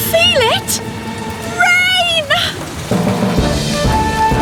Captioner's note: giggling